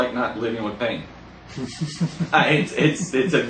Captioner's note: laughing